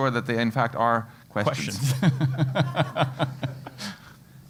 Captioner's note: laugh